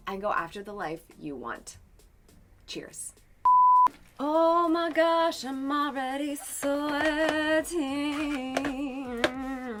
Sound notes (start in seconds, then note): 3.4 tonal beep